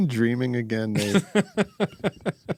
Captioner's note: laughing